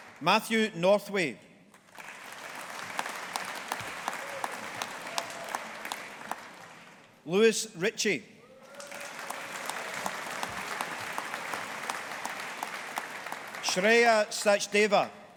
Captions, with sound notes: Matthew Northway. (AUDIENCE APPLAUDING) Lewis Ritchie. (AUDIENCE APPLAUDING) Shreya Sachdeva.